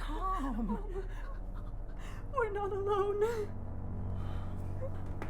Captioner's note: whimpers; both sighing